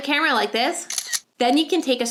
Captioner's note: camera clicking